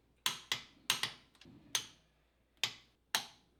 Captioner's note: clicking